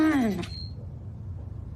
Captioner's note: beeping